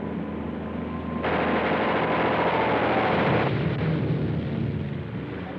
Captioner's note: gunfire blasting